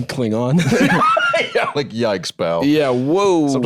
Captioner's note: laughs